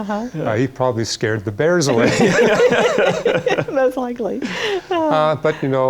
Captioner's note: laughter